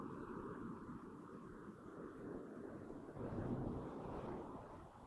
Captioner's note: wind blowing